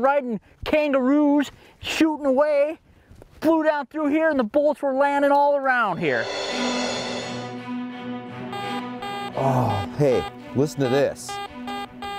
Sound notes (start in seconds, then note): 6.0 suspenseful music; 8.5 beeping